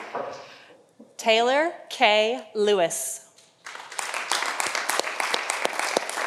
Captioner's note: audience applauding